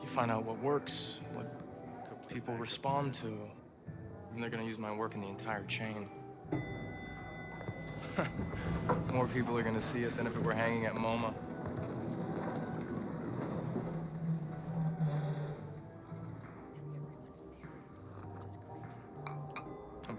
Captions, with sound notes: You find out what works, what people respond to and they're gonna use my work in the entire chain. (elevator dinging) (artist chuckles) More people are gonna see it than if it were hanging at MoMA.